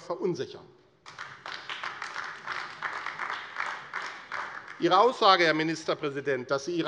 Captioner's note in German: Beifall AfD